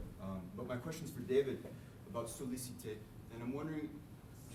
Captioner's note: french